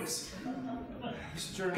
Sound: audience chuckling

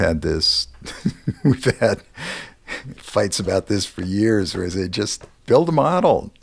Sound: laugh

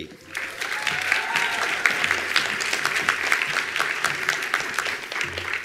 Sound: attendees applauding

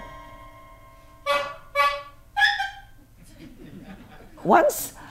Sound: dramatic piano music; horns honking and squeaking; audience laughs

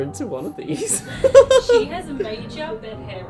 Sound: laughs

